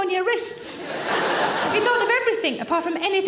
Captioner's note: audience laughing